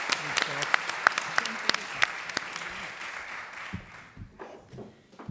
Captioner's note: applause